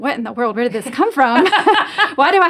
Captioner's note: laughs